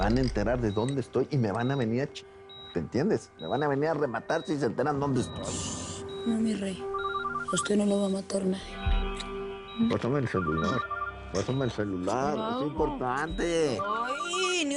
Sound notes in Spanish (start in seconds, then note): 6.9 Suena el teléfono